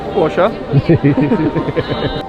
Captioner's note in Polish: śmiech